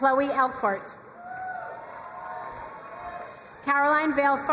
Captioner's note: crowd cheering and applauding